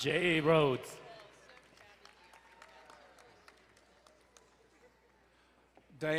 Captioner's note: crowd cheering and applauding